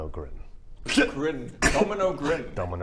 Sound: laugh

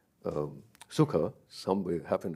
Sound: speaks in a foreign language

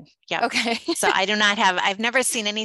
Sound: laughs

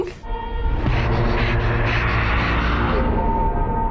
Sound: Arya panting

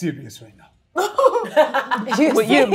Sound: all chuckling

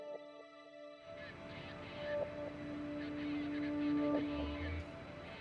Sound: speaking over walkie-talkie

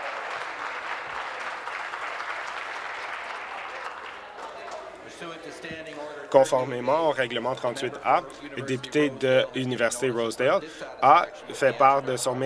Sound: applause

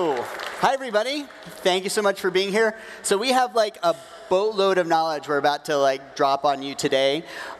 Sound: applause

